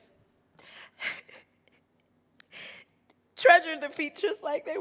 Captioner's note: crying